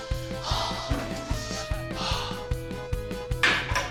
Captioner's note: sighs